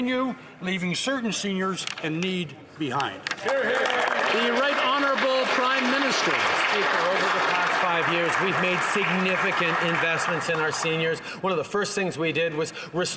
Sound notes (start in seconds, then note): 6.3 some Applause